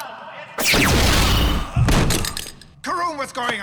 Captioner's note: gunshot